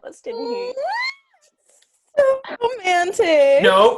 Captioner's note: squeals